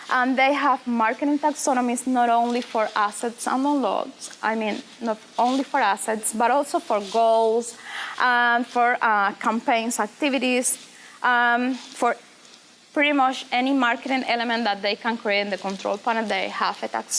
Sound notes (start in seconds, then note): none